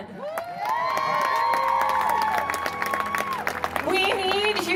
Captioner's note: audience cheering